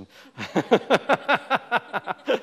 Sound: laughing

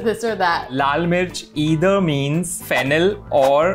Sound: speaking in Hindi

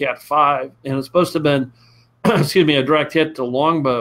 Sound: clears throat

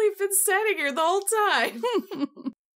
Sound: laughs

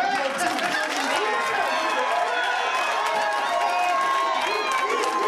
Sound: crowd cheers loudly

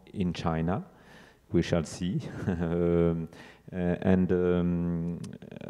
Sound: chuckles

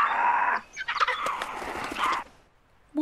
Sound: squarking

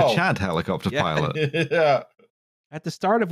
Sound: laughing

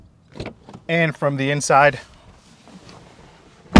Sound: door closes

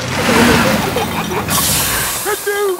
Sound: peppa and george giggling; air hisses

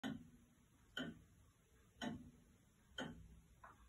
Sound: clock ticking

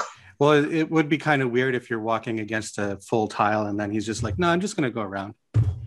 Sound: laughs

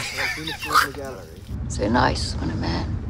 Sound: laughs

